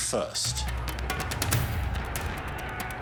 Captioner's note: distant commotion